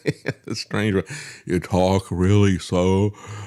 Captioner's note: laughs